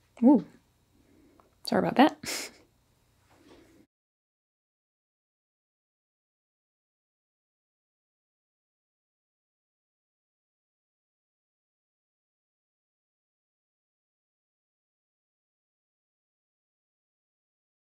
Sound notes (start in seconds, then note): 2.2 chuckles